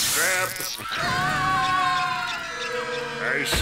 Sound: screaming

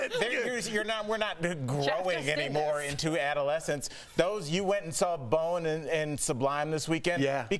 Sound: laughter

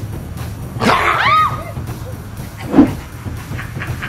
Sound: growling; screaming; laughing

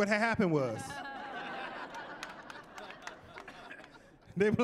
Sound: laughing

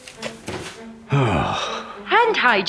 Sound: sighing

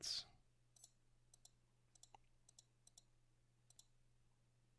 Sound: mouse clicking

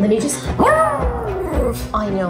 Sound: dog howling

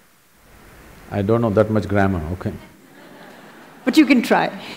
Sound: laughter

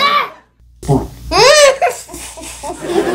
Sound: fart sound

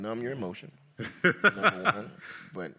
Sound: laughs

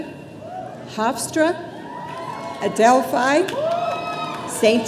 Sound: audience cheering

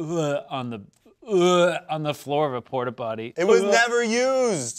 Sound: gags

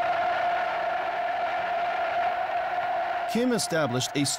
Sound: cheers

